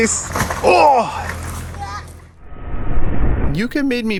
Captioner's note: yells out in surprise